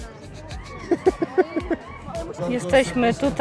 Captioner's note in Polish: śmiech